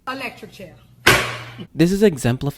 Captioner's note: boom